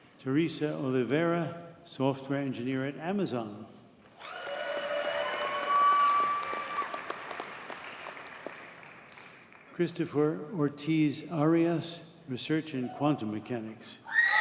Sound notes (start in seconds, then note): 4.1 audience cheers and applauds